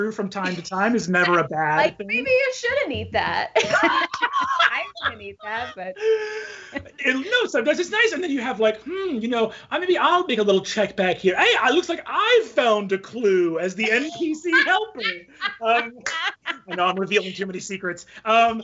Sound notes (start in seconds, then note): 3.5 both laughing